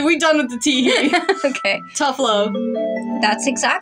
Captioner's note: laugh